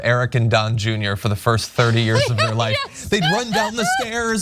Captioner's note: laugh